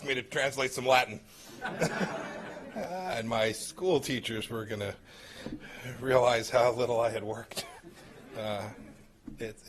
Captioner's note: laughter